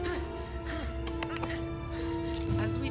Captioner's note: strains